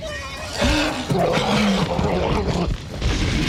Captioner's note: grunting